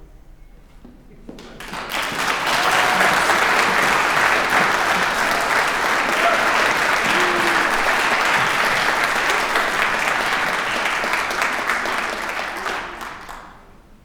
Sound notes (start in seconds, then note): 1.3 applause